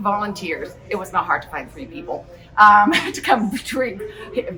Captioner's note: chuckles